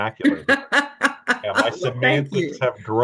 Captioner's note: laughing